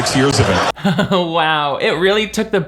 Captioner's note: audience laughing